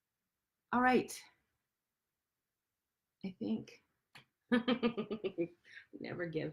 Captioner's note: laughs